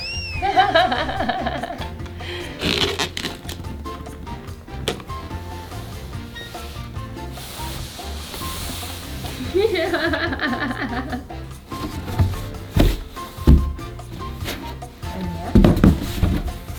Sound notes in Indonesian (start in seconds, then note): 0.0 tertawa; 2.5 suara selotip; 9.4 tertawa; 15.7 suara kardus